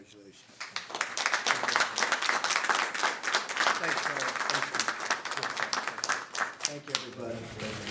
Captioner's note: applause